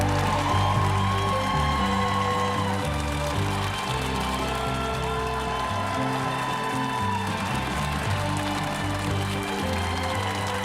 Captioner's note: applause